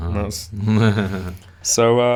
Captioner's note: laughs